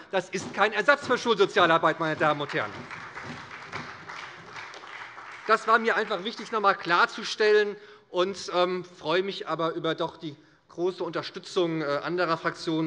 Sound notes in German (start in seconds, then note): 1.8 Beifall bei der SPD